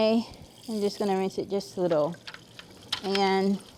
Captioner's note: water trickling; appliances clunking together